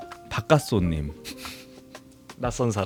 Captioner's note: laugh